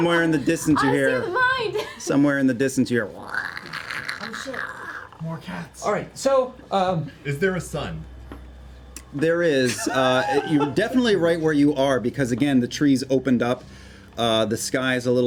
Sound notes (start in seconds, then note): 3.0 angry cat noises